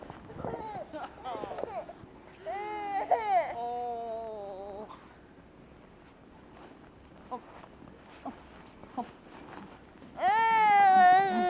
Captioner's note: laugh